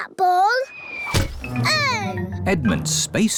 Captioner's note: oinks; thudding